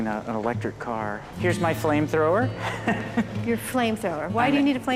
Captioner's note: chuckles